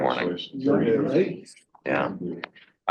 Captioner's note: people chattering